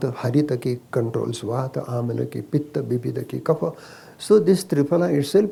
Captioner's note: speaks in Sanskrit – not transcribed